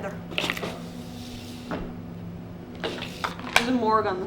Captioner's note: gun glides